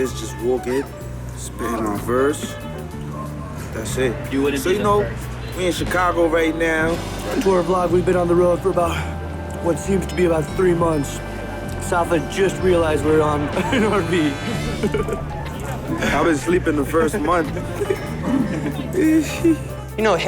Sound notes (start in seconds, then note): 13.2 laughs